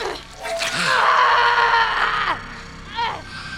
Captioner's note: scream